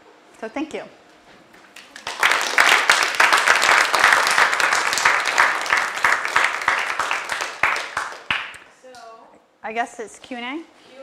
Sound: applause

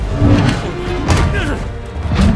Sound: grunts

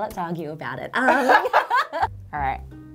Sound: playful music; laughing

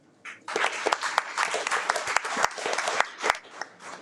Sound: audience applauds

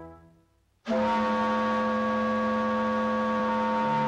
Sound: whistles Blow

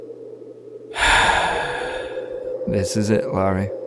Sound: sigh

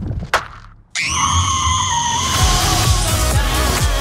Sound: screaming

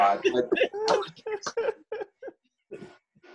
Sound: laughter

